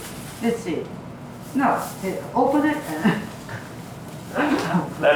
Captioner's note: laughs